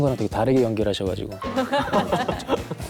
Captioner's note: laughing out loud